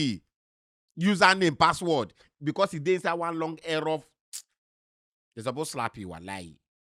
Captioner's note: smacks lips